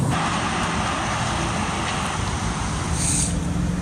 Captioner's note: cars passing